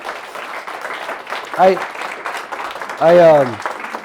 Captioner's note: applause